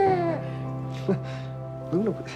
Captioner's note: Max laughs